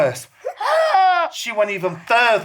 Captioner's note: gaaaaaasssssspppppppsssss